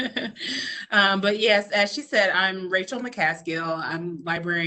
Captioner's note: laughs